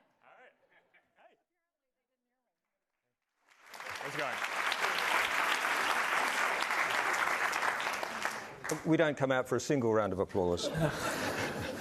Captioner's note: applause